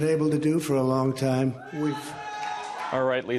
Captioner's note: cheering and applause